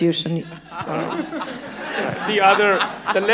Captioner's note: audience laughing